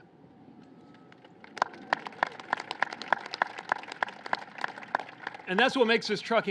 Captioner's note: applause